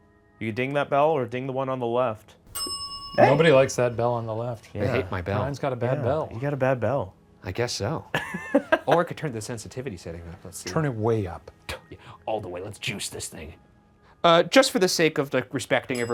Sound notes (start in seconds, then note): 2.5 bell dings; 8.1 laughing